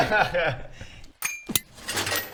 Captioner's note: ping!